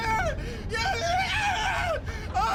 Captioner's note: screams